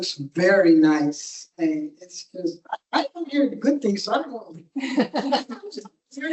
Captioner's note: crowd laughs